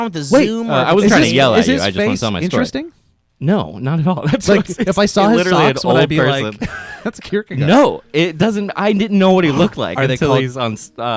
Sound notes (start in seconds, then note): 4.2 laughs